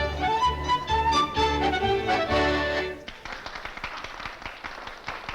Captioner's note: crowd applauding